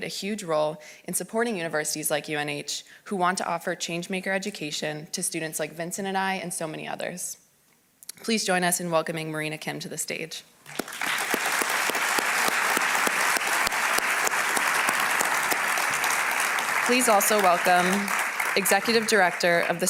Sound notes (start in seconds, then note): 10.6 applause